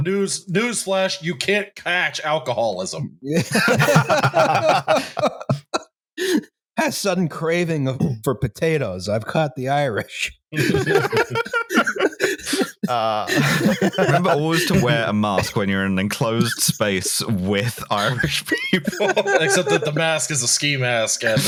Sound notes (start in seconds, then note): 3.3 laughter; 10.5 laughter; 18.8 laughing